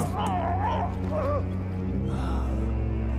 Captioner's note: yelling